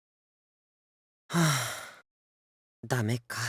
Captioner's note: silence; sigh